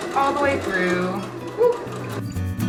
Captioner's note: woo